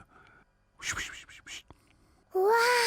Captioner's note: whispers